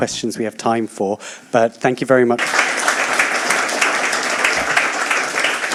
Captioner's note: applause